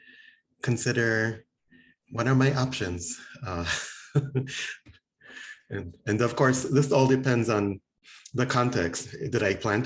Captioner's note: laughing